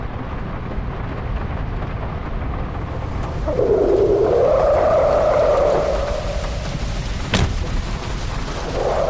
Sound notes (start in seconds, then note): 3.2 rain becomes unmuffled; 7.2 door THUNKS!